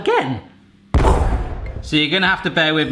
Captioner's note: explosion blasts